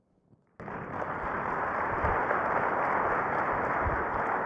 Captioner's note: crowd applauding